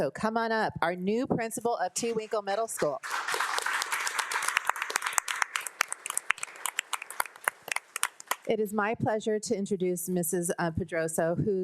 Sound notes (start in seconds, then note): 2.9 board of trustees and attendees applauding